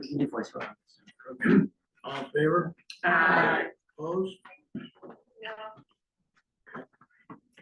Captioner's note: in Unison